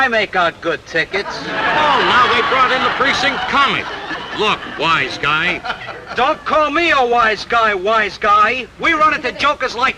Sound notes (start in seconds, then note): 1.2 audience laughing